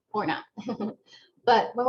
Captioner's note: laughter